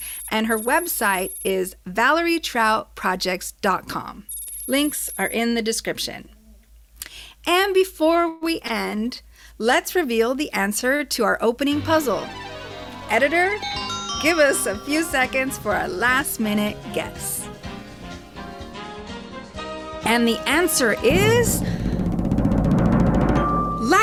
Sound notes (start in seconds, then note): 13.6 chime; 21.0 drum roll then a ding